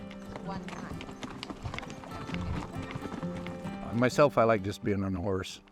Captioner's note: chatting